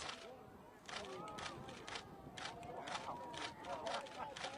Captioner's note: cameras clicking